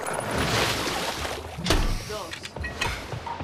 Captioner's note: water ripples